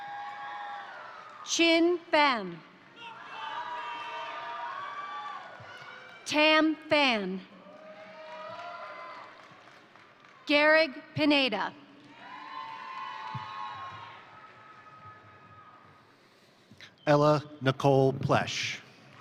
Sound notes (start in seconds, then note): 0.0 crowd applauding; 0.0 crowd cheering; 2.7 crowd cheering; 2.8 crowd applauding; 7.5 crowd cheering; 7.6 crowd applauding; 11.9 crowd cheering; 12.0 crowd applauding